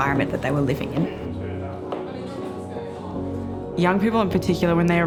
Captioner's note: young people faintly chatting